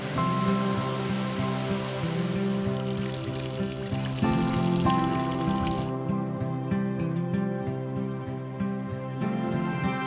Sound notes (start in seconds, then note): 2.2 running water